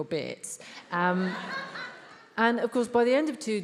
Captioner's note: attendees laughs